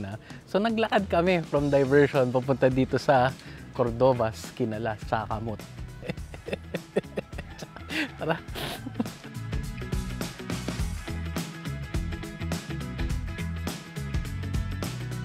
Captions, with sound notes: so we've walked from Diversion to Cordova's Kinalas Cha Kamot. (chuckles) Let's go. (energetic music)